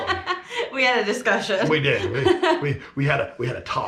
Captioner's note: laughing